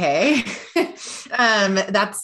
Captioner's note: chuckles